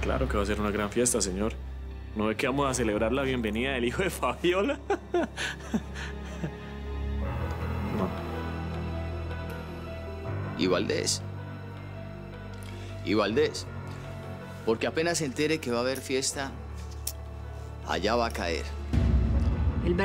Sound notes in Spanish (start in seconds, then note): 6.9 Risas